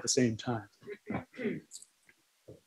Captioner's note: laughter